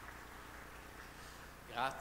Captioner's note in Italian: Applauso